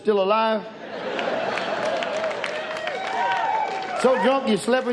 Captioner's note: audience cheers